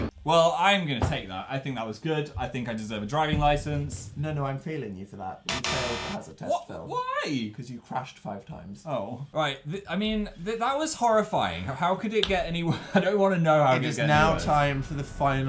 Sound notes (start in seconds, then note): 5.5 failure and sadness sound